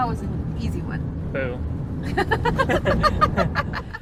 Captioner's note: both laugh